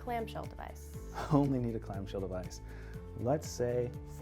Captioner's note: laughs